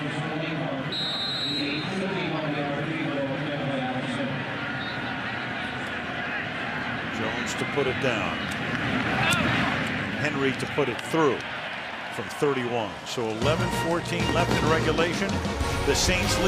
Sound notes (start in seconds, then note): 0.2 pa announcement; 0.9 whistles